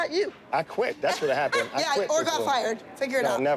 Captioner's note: laughs